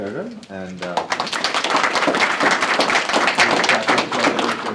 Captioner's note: applause